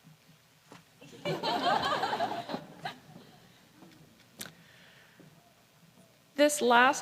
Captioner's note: laughter